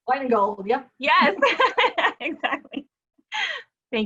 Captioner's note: laughing